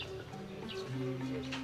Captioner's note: indistinct chatter